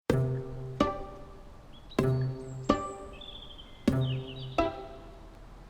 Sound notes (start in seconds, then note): 0.0 upbeat music; 2.0 birdsong